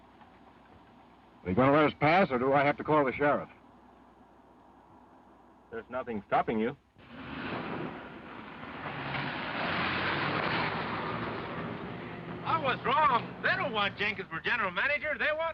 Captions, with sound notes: - Are you gonna let us pass, or do I have to call the sheriff? - There's nothing stopping you. (car engine revving) I was wrong. They don't want Jenkins for general manager. They want me!